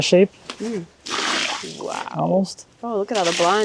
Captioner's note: liquid splashing